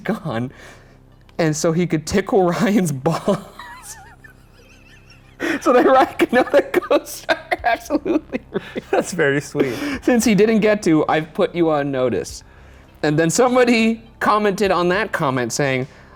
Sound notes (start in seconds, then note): 3.0 laughing